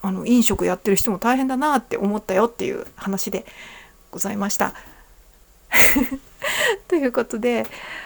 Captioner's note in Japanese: 笑い